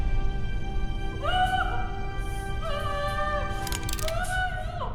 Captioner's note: dramatic music; yelling; guns cocking